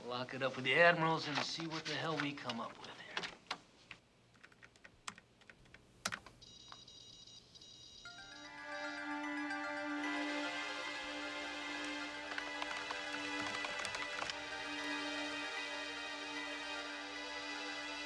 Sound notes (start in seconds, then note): 8.4 dramatic music; 11.6 keys clicking